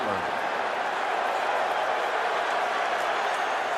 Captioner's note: crowd cheering